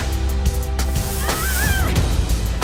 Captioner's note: arya screams